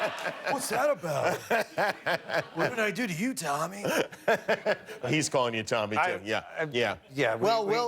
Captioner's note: laughter